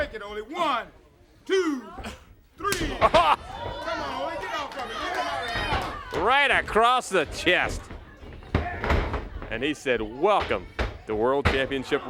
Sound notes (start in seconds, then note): 6.5 crowd chatter